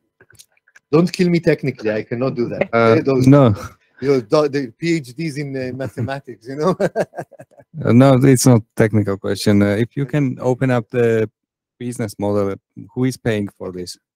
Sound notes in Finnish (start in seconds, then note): 5.6 Laughs